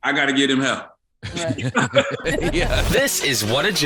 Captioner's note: group laughs